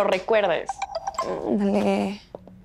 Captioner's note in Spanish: timbre de telefono